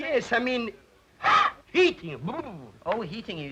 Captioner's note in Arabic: يصدر صوتًا يشبه الارتعاش